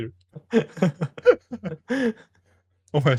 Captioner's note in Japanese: 笑い